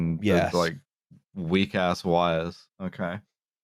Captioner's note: none